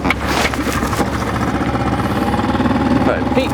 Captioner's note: motor rumbles